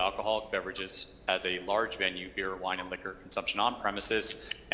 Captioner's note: ~distortion~